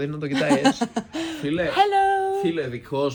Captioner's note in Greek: γέλια